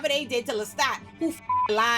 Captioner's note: beep